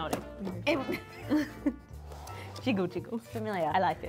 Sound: both laughing

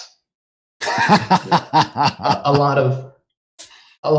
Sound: laughter

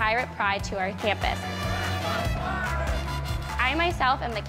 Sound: pep band playing; crowd cheering

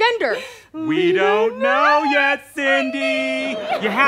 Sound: sing-song

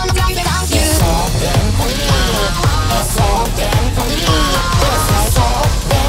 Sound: ha ha ha

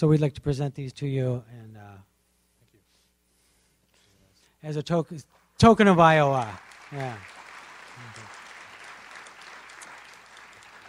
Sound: applauds

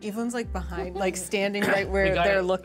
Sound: speaker chuckles

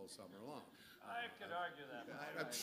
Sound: laughter

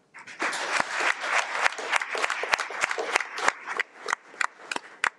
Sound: audience clapping

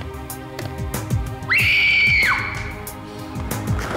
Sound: screams

